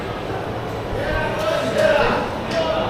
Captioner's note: speaking in foreign language